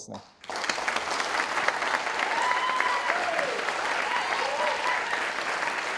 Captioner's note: audience cheering and applauding